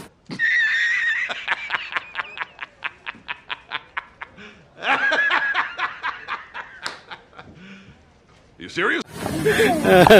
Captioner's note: laughs